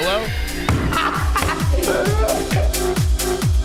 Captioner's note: laughter